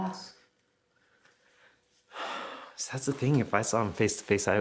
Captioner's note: sighing